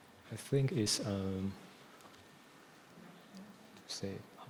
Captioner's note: faintly speaking